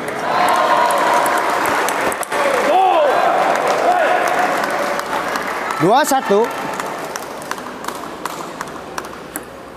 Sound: applause

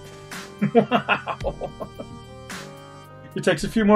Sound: laughs

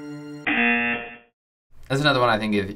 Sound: buzzer rings

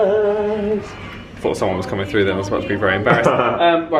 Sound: laughs

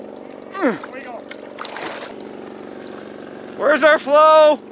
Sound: grunts

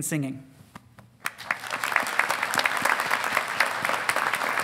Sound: audience applauding

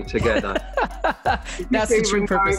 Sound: laughs

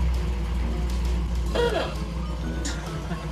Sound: car horn

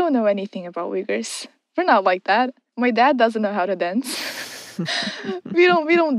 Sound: both laugh

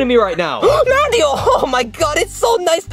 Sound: gasps

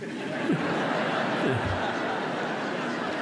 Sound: laughter

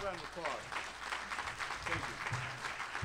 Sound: applause

